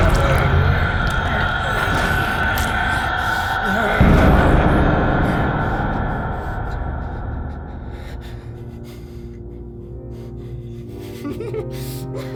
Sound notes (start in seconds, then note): 0.0 plucking and tearing noises; 9.4 laughs